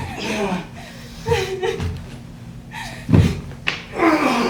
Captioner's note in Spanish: Llantos; Gruñidos y llantos